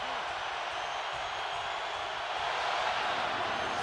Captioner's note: cheering